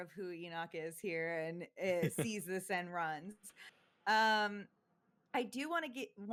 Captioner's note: chuckles